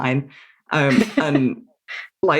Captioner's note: laughs